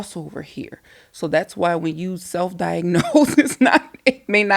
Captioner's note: laughing